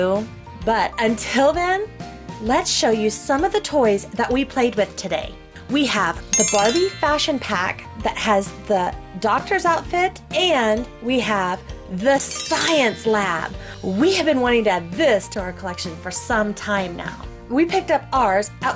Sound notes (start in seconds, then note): 9.6 magic chime; 12.2 magic shimmer